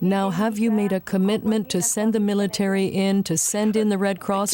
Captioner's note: speaking French